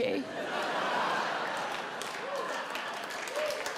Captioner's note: audience laughs; audience cheers and claps